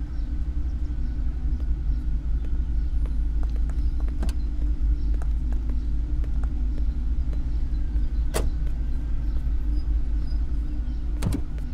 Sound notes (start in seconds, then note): 4.3 car door opens; 8.3 car door shuts; 11.2 car door opens